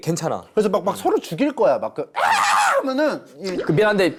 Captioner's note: beautiful shouting